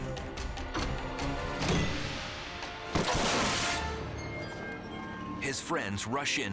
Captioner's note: body thudding; head thudding